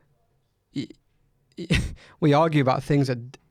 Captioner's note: chuckles